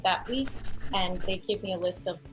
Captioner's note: pencil sketching